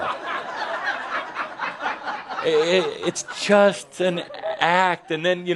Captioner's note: laughter